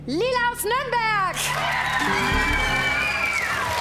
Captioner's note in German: Jubel